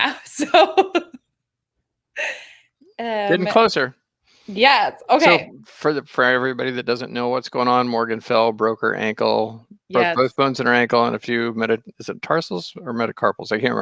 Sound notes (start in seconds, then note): 1.7 laughing